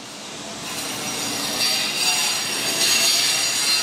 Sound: buzzing

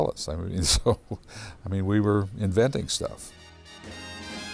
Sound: chuckles

